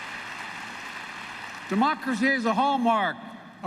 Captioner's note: applause